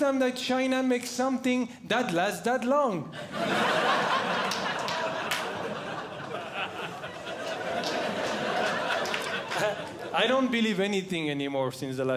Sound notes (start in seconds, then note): 3.1 audience Laughing